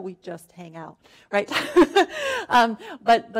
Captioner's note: laughing